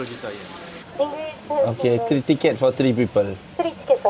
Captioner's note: speaking Japanese